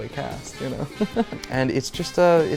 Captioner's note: laughs